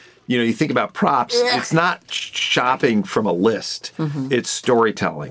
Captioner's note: gags